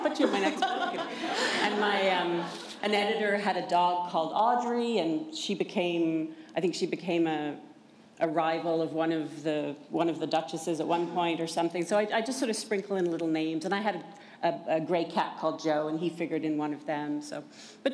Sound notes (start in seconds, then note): 2.5 laughter